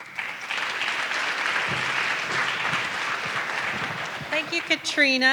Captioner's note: audience clapping